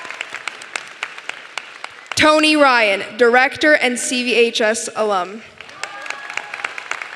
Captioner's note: applause